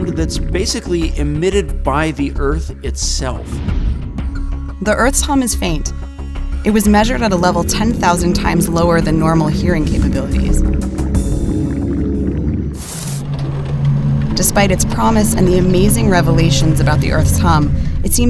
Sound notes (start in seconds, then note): 11.9 static crackling